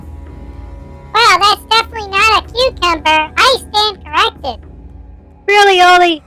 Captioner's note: gulps; sarcastically